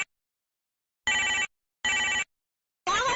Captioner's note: ring, ring, ring